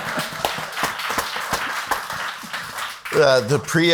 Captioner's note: all laugh; audience applauds